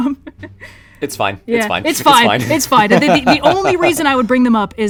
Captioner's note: laughs